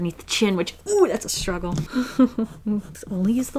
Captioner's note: laughs